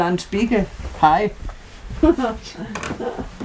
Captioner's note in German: Kichern